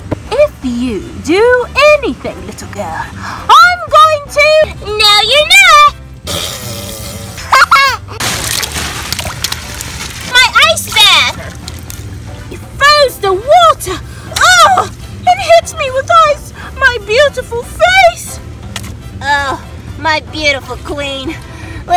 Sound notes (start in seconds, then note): 6.2 blowing raspberries; 7.4 laughing